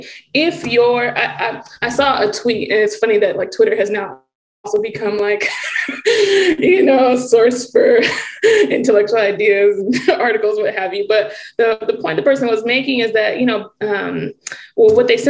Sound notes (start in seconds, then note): 5.4 chuckling